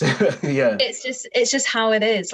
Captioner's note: laughs